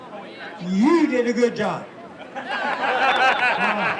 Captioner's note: laughter